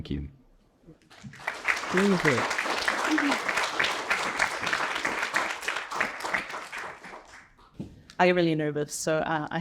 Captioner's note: applause